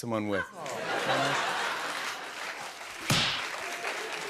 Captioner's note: laughter and applause